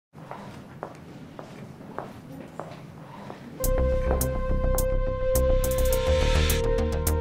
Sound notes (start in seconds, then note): 0.2 heels clicking on floor; 3.6 energetic music